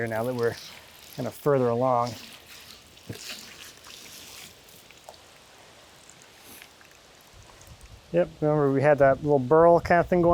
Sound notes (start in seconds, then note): 2.4 water gurgling